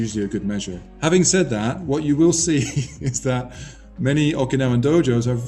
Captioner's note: laughs